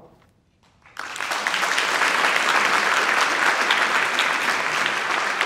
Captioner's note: audience applauding